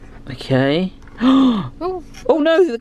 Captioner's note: gasps